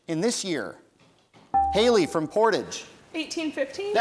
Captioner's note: bell rings